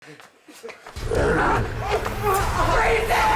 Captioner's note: Meathook Man growling